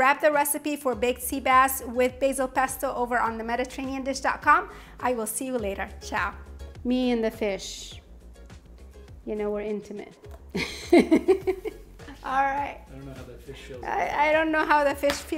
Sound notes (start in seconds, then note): 10.5 laughs